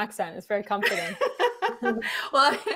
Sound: laughing

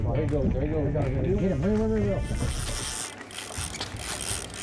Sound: fishing line reeling

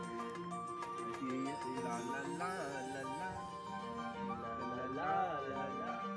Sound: humming song

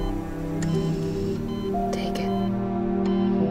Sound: whispering

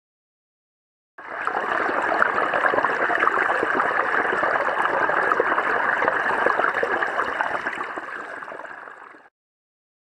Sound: sound of filling a bathtub

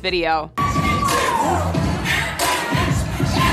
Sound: crowd cheering

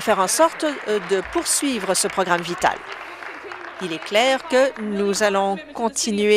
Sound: applause

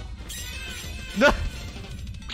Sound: laugh duh

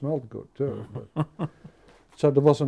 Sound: laughing

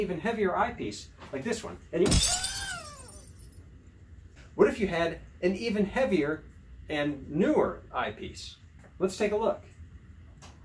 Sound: crash sound

